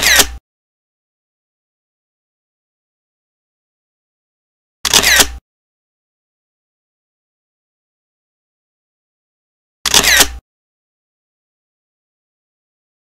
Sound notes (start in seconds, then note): 0.0 camera shutters; 4.8 camera shutters; 9.8 camera shutters